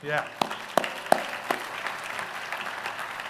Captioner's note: applause